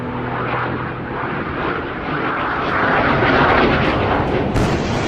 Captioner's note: jet flying overhead; sonic boom